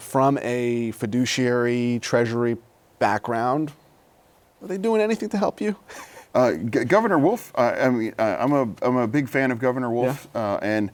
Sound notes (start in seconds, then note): 5.9 laughter